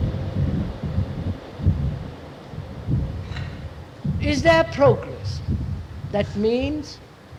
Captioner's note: sound of train passing